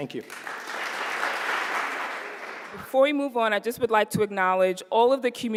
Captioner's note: applause